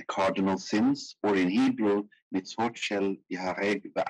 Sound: speaking in foreign language

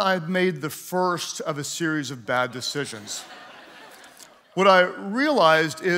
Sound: congregants laughing

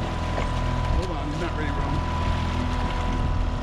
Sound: fish splashing; boat engine idling

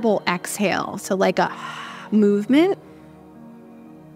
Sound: audible exhale

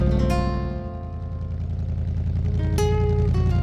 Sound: car engine

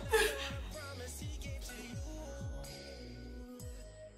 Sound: Crystal crying softly

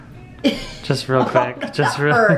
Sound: laughs

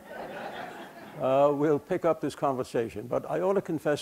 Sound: laughter

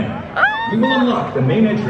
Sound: squeals

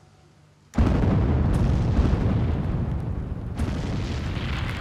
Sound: explosion

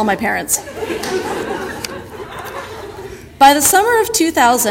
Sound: audience laughter

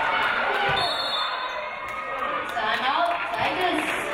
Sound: referee blows whistle

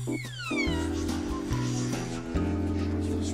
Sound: eerie whispering

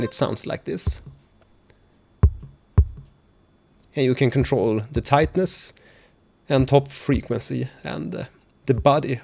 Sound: sound of Muffled kick

